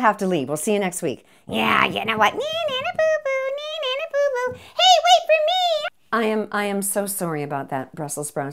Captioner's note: Veggies complain quietly